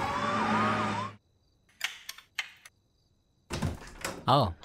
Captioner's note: Siren wailing; Door opens; Door lock opens